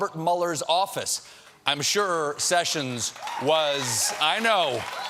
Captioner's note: applause